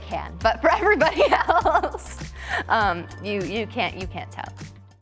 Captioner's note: chuckling